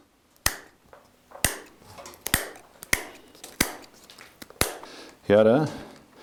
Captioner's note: scissors cutting